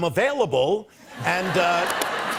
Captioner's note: laughter